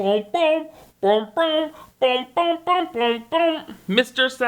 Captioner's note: mimicking bassoon playing